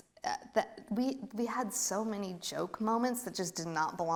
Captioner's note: stammers